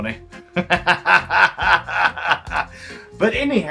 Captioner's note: laughs